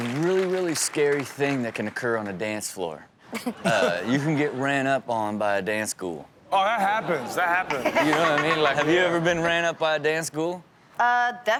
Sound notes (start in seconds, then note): 6.6 Chanel and audience laughing